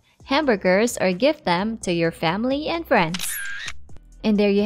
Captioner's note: camera clicks